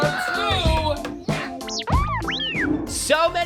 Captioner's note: r2d2 beeping